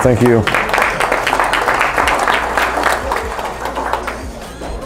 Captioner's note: audience clapping